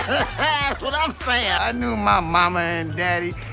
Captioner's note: Chico laughs